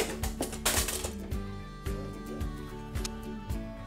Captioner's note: utensil clatters